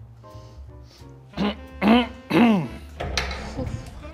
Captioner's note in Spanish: carraspea